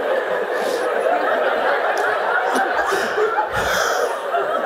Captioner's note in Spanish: Mooji y la sangha siguen riéndose